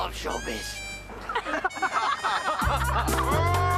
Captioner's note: all laughing